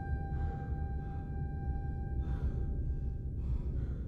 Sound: both pant

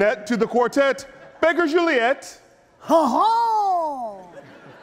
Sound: audience laughing

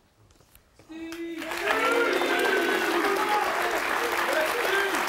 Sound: audience applauds

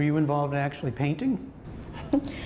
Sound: laughter

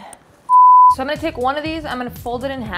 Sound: screen beeps

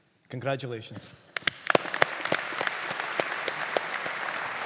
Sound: audience applauding

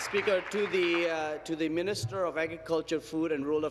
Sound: applause

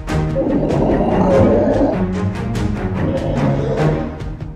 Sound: lion roaring

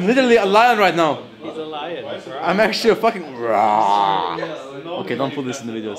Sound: roars

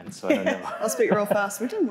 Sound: laughing drowning out speaking

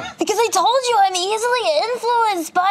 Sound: imitates child's voice

